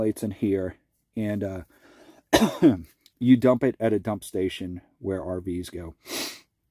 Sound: coughs; sniffs

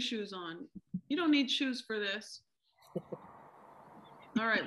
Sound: laughter

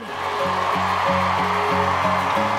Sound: applause

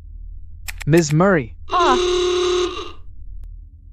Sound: dr. vanessa screams

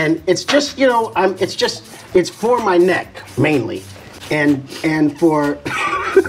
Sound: laughing

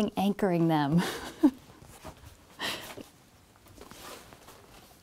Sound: chuckles

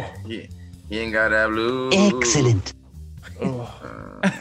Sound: laugh

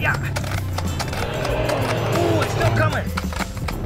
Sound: dinosaur roaring

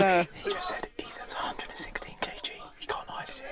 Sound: whispers

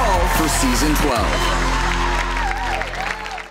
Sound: applauding

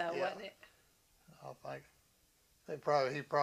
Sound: laughs

